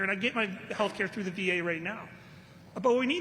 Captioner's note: none